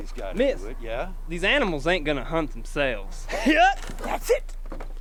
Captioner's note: laughs